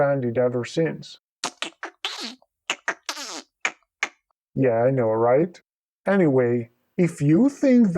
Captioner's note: alien disapproval sounds